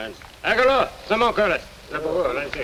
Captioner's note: speaks in foreign language